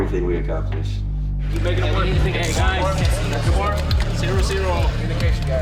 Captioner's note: chattering